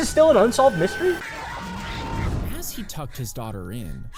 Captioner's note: character yelling